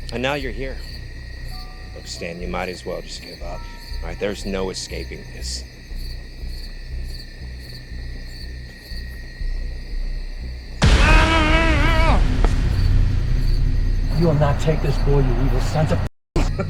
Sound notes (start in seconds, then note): 6.8 tense music; 11.5 yelling